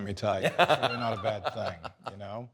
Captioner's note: Fred laughs